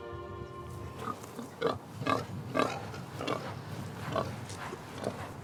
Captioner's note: pig snorting